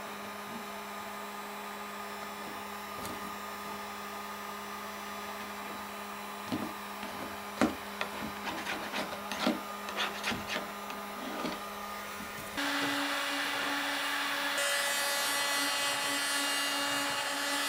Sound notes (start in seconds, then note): 6.4 scraper rasping and thumping; 14.0 tool droning continues